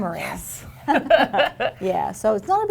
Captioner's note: laughter